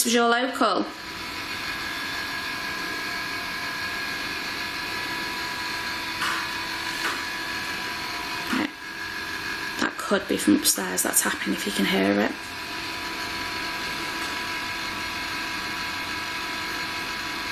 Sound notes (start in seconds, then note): none